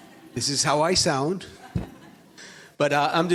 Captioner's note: audience laughs